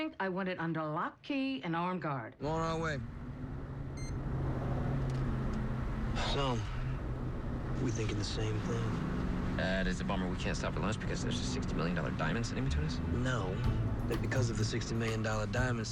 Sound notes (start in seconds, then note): 3.9 cell phone beeps; 6.1 sighs